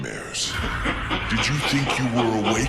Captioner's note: evil laugh